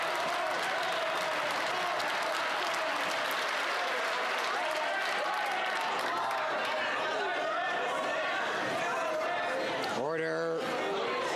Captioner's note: cheers and Applause